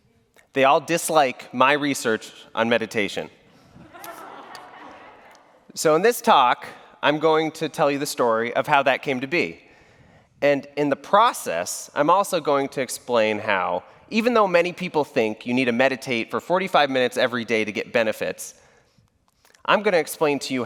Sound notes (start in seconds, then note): 3.9 brief laughter